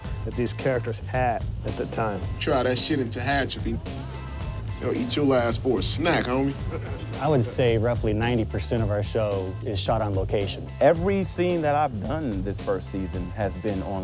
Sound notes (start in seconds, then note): 6.1 chuckling